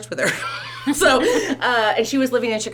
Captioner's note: laughter